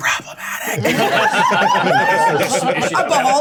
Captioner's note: group laughing; certainty clapping